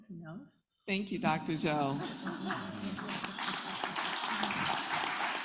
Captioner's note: applause